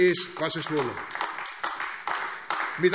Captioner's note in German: Beifall AfD